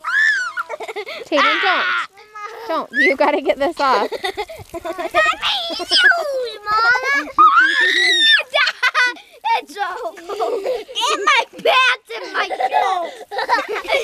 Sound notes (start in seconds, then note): 7.3 screams; 12.2 laughs